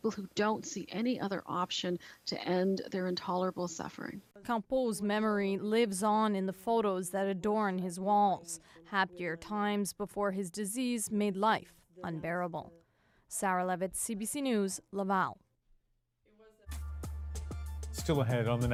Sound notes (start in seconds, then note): none